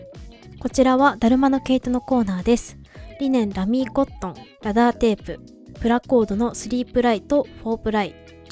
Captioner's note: out of breath